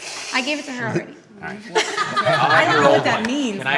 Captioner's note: laughs